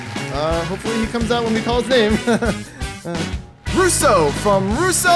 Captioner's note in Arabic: ضحكة مكتومة